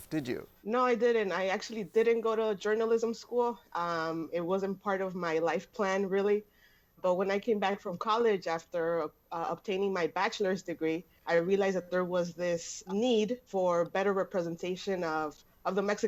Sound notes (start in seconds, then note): none